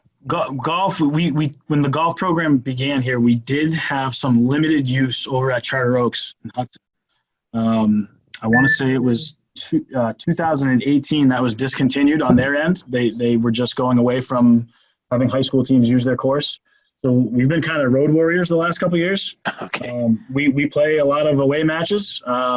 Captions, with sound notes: - Golf, we, when the golf program began here, we did have some limited use over at Charter Oaks. I want to say it was 2018. (phone notification rings) That was discontinued on their end. They were just going away from having high school teams use their course. So, we've been kind of road warriors the last couple of years. - Okay (laughs). - We play a lot of away matches.